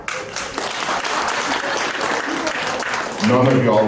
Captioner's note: moderate applause